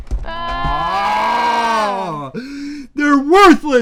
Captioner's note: both yell